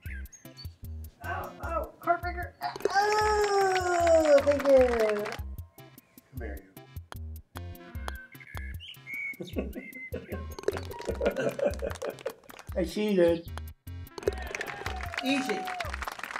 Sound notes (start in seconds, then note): 3.0 applause; 9.3 chuckling; 10.6 ball falls in cup, applause; 10.9 chuckling; 14.2 applause